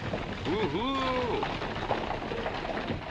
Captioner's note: whoo!